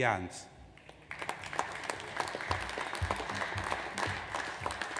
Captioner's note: audience applauds